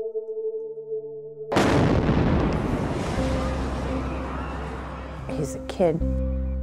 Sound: bomb explodes, crowds scream

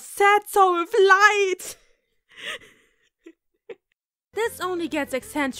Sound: slight laughing because WOW, was that fun to record

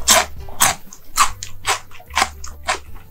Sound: crunch crunch

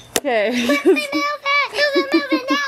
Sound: laughs

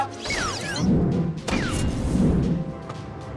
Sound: video game sounds

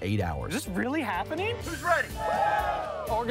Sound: crowd cheers

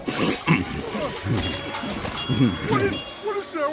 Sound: munching; high-pitched whirring

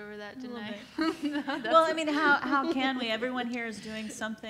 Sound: laughs

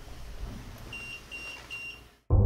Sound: beeping

